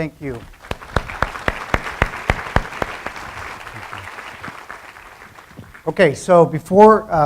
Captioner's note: applause